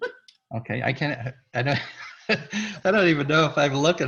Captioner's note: laughs; laughs